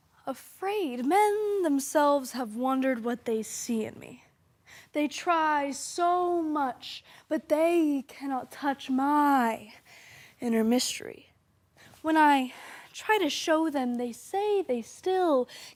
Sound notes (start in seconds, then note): 4.6 soft breathing